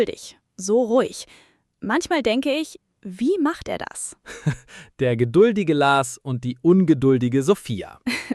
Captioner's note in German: gelächter